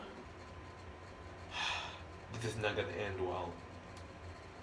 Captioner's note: sigh